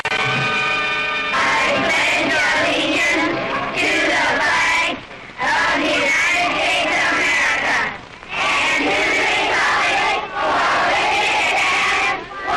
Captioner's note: children reciting the pledge of allegiance